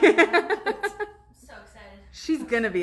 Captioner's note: laughs